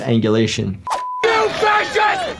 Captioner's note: beep